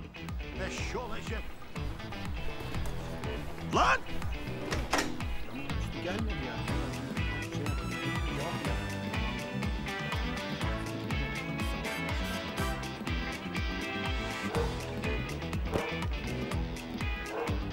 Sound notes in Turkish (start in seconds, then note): 3.4 Kapı açılma sesi; 5.6 Müzik - Hareketli